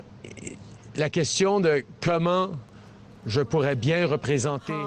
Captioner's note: speaking French